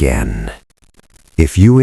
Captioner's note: long pause. Silence